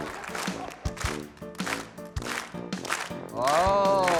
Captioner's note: crowd claps rhythmically